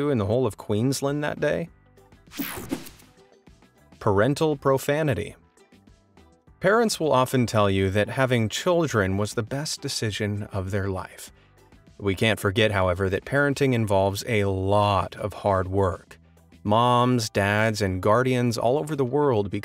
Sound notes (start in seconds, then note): 2.4 air whooshing